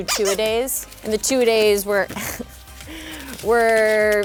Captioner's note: laughing